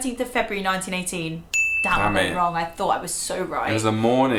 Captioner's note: ding